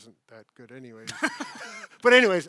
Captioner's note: laughs